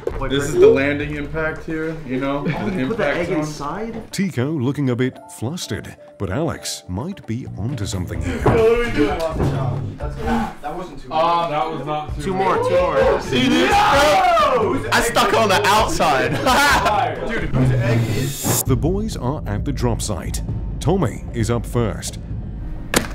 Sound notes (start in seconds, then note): 14.0 group yelling; 22.8 crash